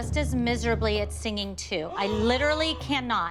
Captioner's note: gasps